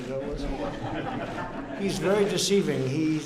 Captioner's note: laughter